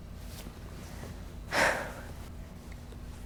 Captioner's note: David sighs